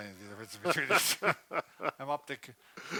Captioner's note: laughing